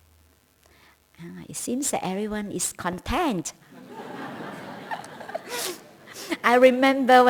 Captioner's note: laughter